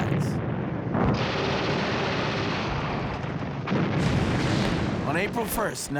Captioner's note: explosions and gunfire